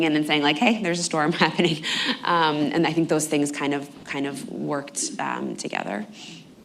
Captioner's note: laughs